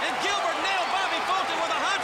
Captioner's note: crowd cheering